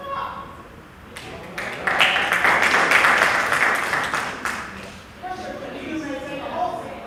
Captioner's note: applause